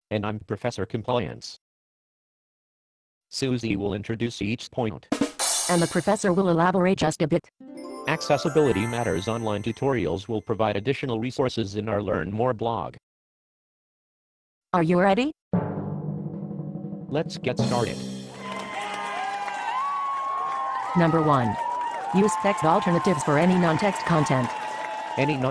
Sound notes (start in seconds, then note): 4.9 drumroll; 7.6 dramatic music; 15.6 drumroll; 18.4 applause